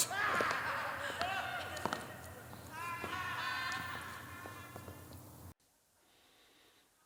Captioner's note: background bedlam of the insane asylum